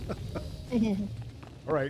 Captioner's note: laughs